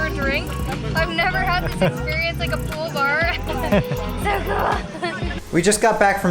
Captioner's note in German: Gelächter